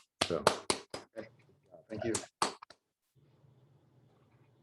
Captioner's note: claps